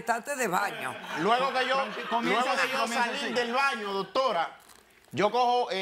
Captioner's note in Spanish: Risas